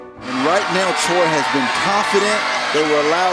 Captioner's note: voiceover